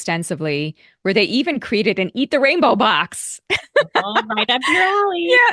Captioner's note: laughing